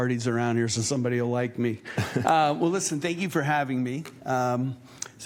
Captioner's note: laughter